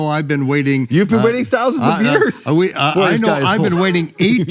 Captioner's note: laughs